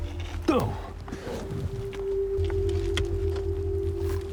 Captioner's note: grunts